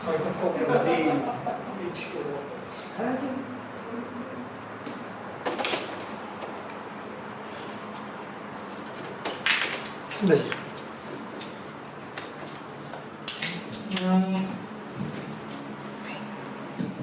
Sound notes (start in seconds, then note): 0.4 laughters; 5.4 door opens